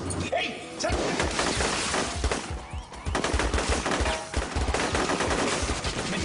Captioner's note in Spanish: Disparos